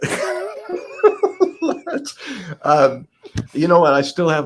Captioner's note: laughs